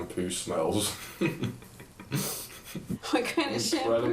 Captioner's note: chuckling